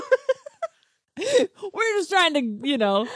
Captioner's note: laughs